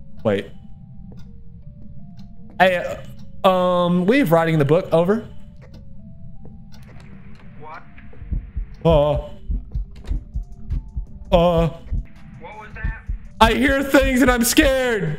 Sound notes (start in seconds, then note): 7.0 spooky ghost noises; 14.9 continued spooky ghost noises